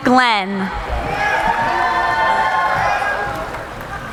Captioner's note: cheering